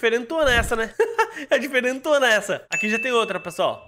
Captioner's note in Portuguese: risos